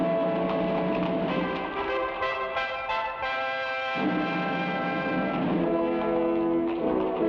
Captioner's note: thrilling music; horse hooves patter